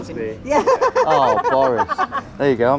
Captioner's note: laughs